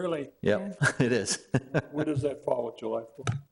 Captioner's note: laughs